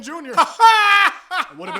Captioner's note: weird laughing